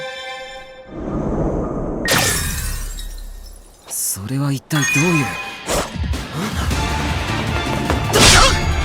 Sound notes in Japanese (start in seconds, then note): 2.0 効果音 - ガラスが割れる; 7.8 攻撃音